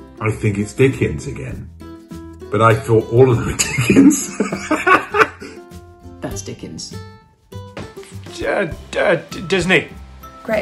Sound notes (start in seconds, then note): 3.6 laughs